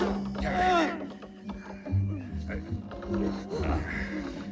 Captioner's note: groaning